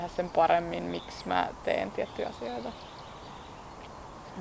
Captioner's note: small birds singing